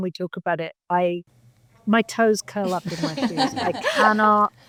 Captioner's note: panelists laughing